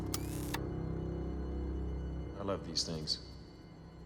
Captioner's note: taser whirs